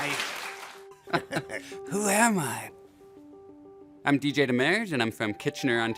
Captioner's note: audience cheers; chuckle